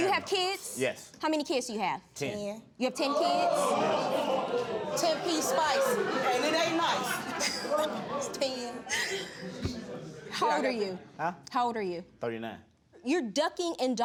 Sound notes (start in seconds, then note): 4.6 audience gasping; 8.8 chuckling